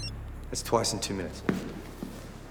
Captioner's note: cellphone ringing